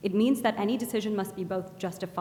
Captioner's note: none